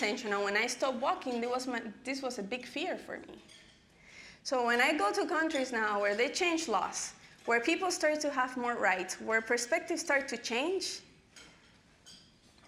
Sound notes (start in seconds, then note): none